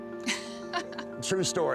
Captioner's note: laughs